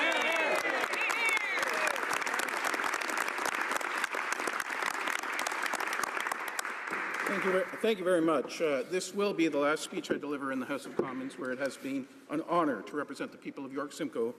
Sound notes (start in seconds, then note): 3.1 applause; 3.6 cheers